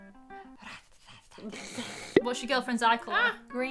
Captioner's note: hissing; snorting